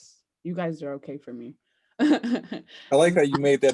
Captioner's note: laughs